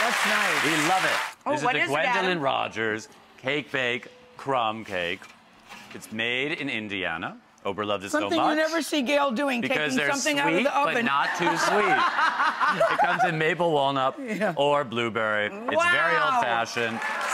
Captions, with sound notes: Yeah, that's nice. We love it. Oh what is it? This is the Gwendolyn Rogers's Cake Bake Crumb Cake. It's made in Indiana, overloved and snow pie. Something you never see Gayle doing, taking something out of the oven. Because they're sweet, but not too sweet. (audience laughs) You've got the maple-walnut, or blueberry, it's very old fashioned. (audience applauds)